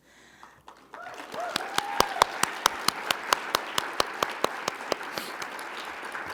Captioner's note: audience applauding; audience cheering